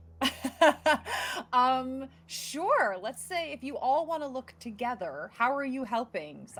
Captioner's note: laughing